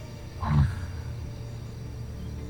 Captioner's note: gargan grunts